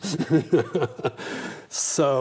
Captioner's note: both laugh